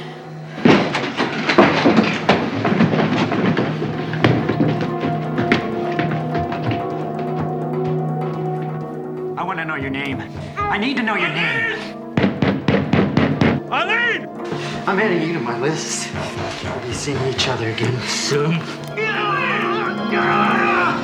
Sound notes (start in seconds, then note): 0.2 footsteps running; 14.4 banging on the door; 18.7 screams